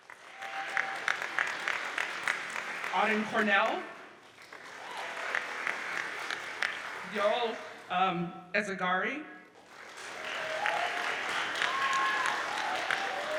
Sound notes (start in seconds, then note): 0.0 audience applauds; 9.5 audience applauds